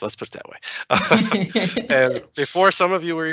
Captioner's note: laughs